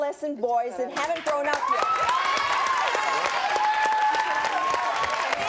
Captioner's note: audience cheers